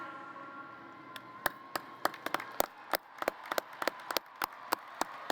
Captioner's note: applause